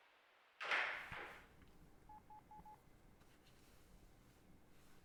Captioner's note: phone beeping